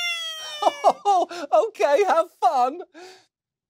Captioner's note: chuckles